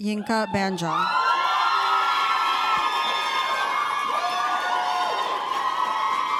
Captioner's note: applause